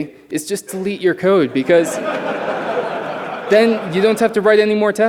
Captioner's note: laughter